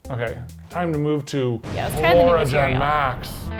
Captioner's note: explosion